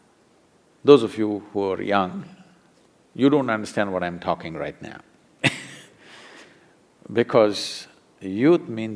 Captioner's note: laughs